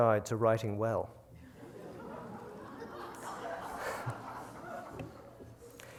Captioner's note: laughter